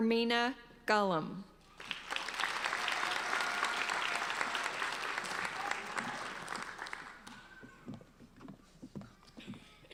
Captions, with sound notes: Hermina Ngalim. (applauding)